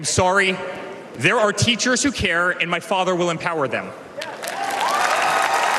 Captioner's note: cheers and applause